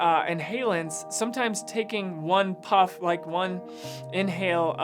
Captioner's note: inhales